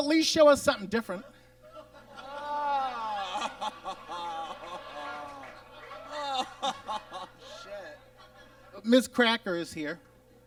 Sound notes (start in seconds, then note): 2.4 groans